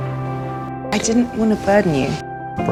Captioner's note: voiceover